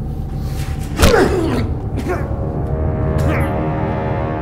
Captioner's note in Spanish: gruñidos; música intensa